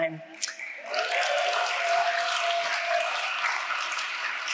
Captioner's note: audience applauding